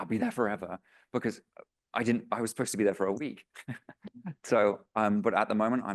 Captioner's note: laughs